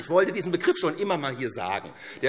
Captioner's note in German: Heiterkeit und Beifall SPD